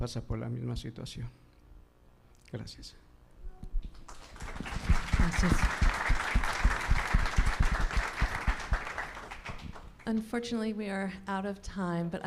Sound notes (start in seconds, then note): 4.0 audience applauding